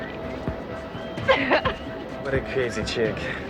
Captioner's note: laughs